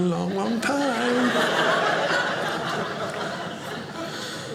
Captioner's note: audience laughing